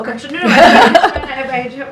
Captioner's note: laughs